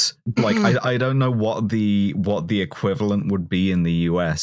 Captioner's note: snorts